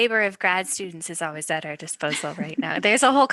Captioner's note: laughter